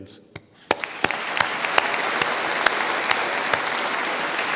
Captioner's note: audience applauds